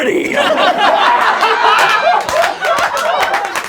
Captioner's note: laughing